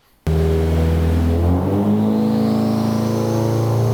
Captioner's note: engine revving